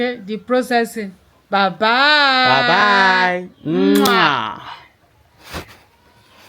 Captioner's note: kisses